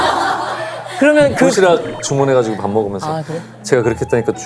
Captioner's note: terrified